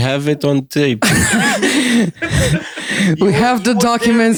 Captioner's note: laughter